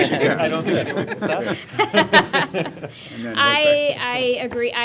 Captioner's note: laughter